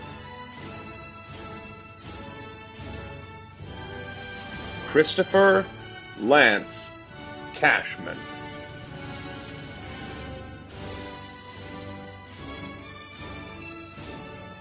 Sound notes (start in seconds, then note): none